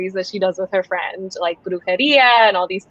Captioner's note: speaking foreign language